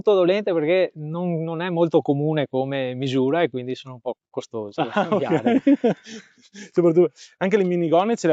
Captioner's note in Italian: risate